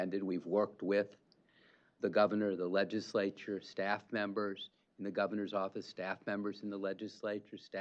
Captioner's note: none